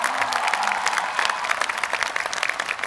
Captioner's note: applause